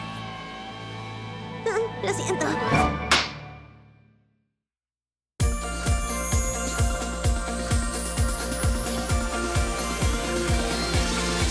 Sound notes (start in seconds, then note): 2.7 clack